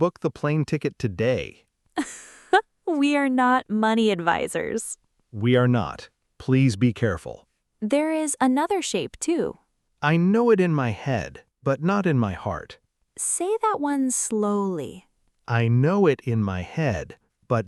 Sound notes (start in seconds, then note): 2.0 laughs